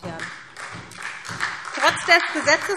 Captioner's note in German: Beifall SPD